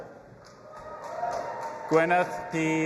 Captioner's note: audience applauding and cheering